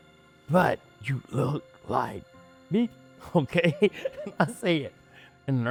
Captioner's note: beeps; laughs